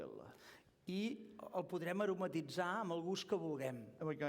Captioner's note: non-english speech